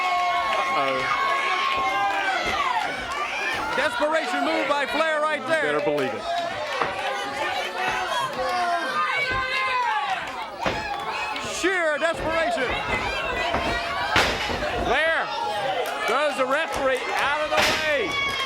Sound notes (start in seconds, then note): 8.6 crowd chatter; 13.9 crowd chatter